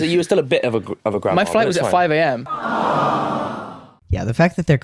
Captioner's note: sound effect: “awww”